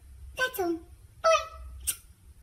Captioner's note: smooch